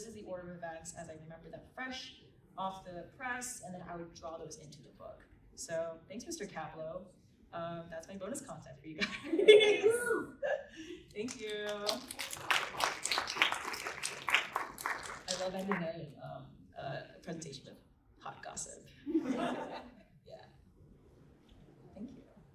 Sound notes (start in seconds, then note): 16.1 applause